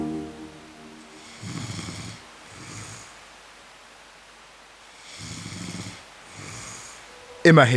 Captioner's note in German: Schnarchen